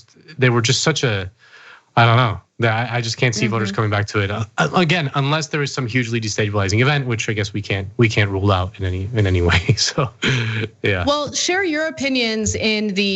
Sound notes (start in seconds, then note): 9.1 laugh